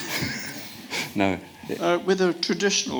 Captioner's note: audience laughs